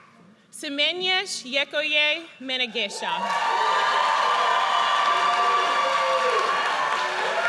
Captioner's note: audience cheers